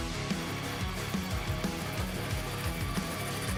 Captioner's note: saw rasping